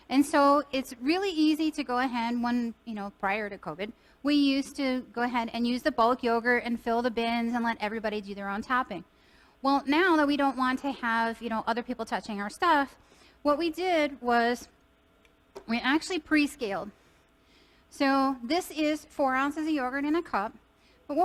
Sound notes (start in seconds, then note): none